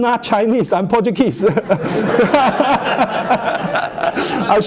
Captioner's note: laughter